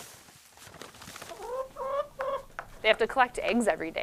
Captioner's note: chicken "Tuk-tuk-kah"